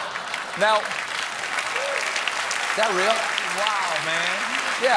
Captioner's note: applause; laughter